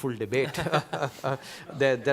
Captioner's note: laughing